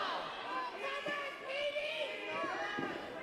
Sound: crowd

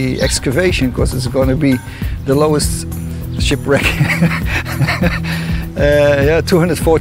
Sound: laughs

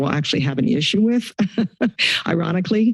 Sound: chuckles

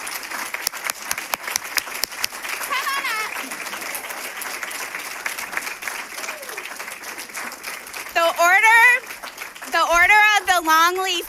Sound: cheers and applause

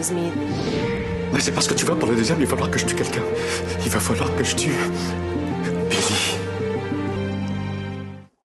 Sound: speaking french

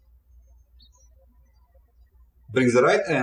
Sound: birds chirping

